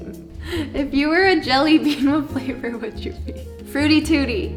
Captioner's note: laughs